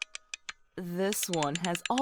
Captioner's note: winding up music box